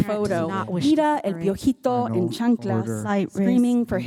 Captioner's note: speaking in foreign language